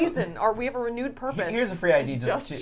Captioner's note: laughs